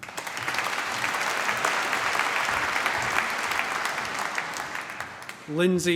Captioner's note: applause